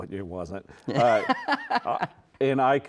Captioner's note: laughing